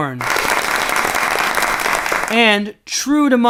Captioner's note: applause